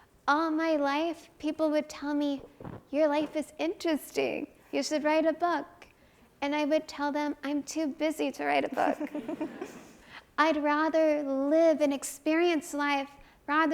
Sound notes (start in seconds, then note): 8.9 audience chuckles